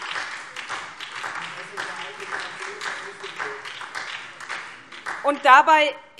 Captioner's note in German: Beifall